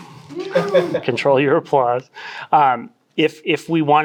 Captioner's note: audience member woos